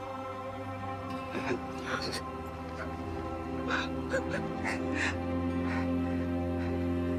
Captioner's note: crying